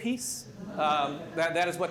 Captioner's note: laughter